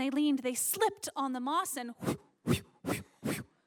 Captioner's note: slipping sounds- weirdly not squishy